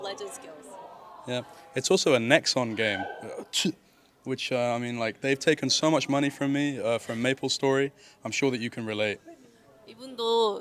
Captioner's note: spits